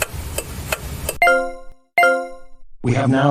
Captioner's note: intercom beeping